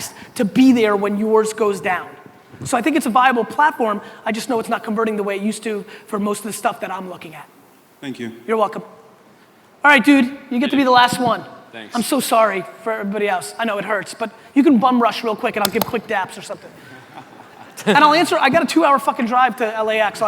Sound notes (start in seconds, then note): 16.7 audience laughter